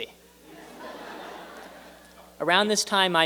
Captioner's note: laughter